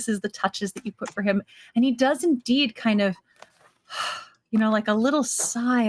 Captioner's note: sighing